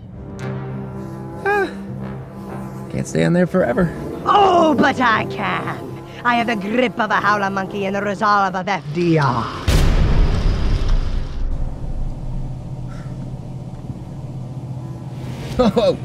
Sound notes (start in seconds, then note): 0.1 buzzing; 0.1 dramatic music; 9.1 car driving; 9.6 bang; 14.4 buzzing